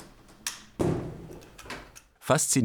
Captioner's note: clattering and clattering